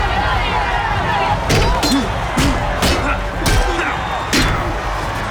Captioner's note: men grunting; crowd cheering